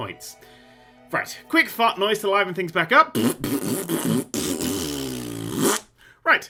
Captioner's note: fart noise, fart noise, fart noiseeeeeeeeeeee